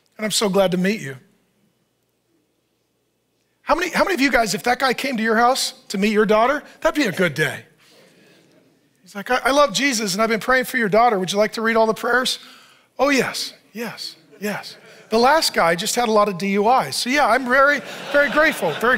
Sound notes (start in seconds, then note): 8.2 congregation assenting; 14.2 audience laughs